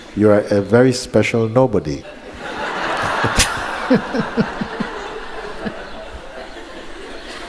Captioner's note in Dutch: gelach